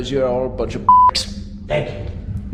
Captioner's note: beep